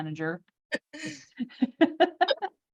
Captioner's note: laughter